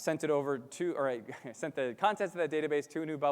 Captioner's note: chuckles